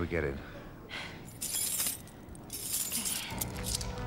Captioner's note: keys jangling